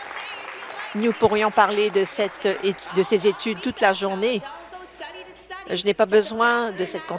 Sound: applause

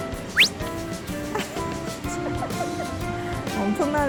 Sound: laughing

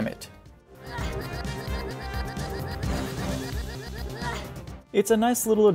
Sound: Repeated Gwen grunt

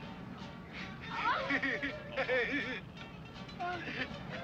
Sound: laughing

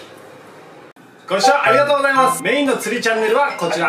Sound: ringtone

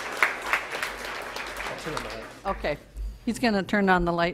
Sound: audience applause

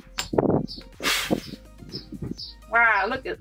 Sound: blows loudly

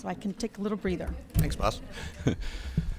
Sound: audience laughs

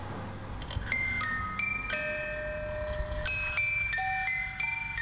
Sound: Twinkle Box Chime Sound

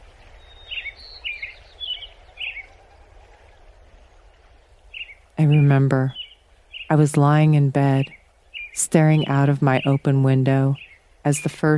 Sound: repeated robin call

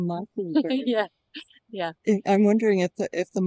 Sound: laughter

